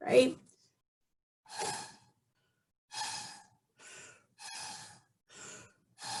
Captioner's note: blowing through straw